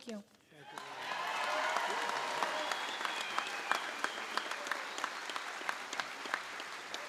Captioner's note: applause